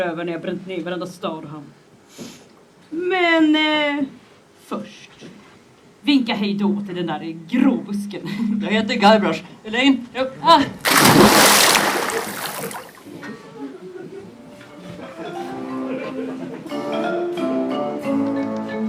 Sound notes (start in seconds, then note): 10.8 splash; 15.1 loading music